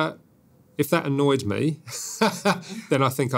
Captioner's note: laughs